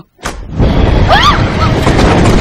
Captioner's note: shrieks